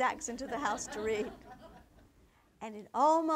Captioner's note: audience laughter